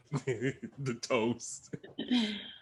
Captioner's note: Bobo laughs